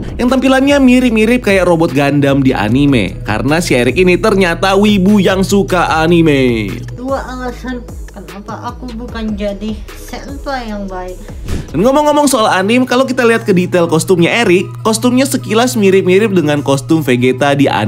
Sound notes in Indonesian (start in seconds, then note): 7.0 @juanmirrr TikTok playing; 11.4 suara transisi